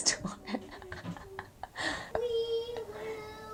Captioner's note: laughs